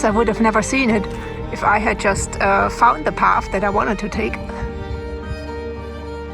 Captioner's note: laughs